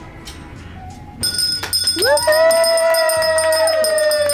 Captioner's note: bell dinging; everyone cheering